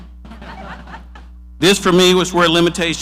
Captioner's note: person laughing